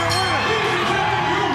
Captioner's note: bell ringing